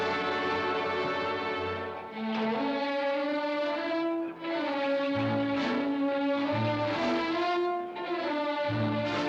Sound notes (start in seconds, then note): 0.0 whistling